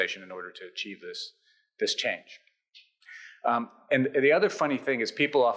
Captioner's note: none